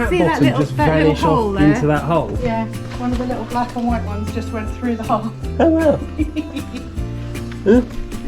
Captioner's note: laughs